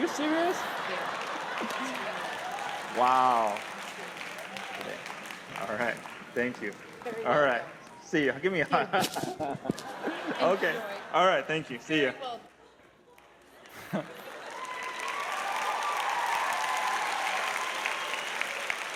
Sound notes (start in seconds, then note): 13.0 applause; 13.6 cheers